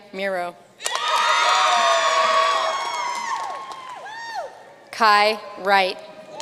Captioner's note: audience cheering and applauding